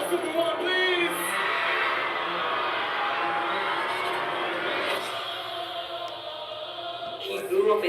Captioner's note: cheering crowd; energetic music